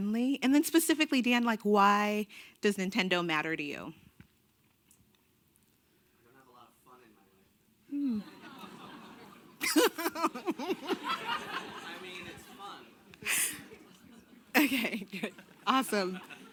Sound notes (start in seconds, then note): 8.0 laughing